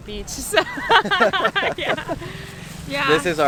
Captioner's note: laugh